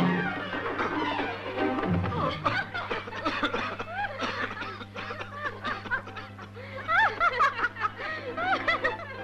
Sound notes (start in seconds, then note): 2.1 women laughing; 2.1 coughing